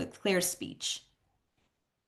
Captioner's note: silence